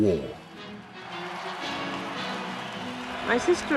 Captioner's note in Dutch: publiek juicht